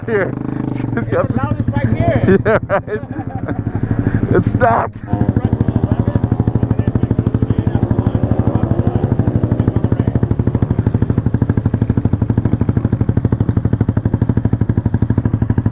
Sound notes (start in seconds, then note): 1.6 laughing; 8.9 motorcycle revs